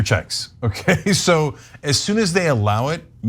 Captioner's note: laugh